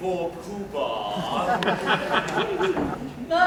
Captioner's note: laughter